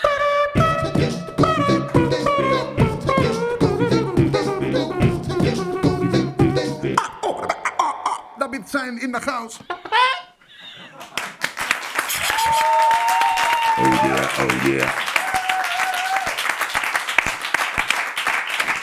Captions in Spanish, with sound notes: (IMITA TROMPETA) (HACE BEATBOX) "David Sainz in the house". (Cacareo) (Aplausos) "Oh, yeah". "Oh, yeah".